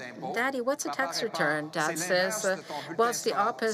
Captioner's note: speaking French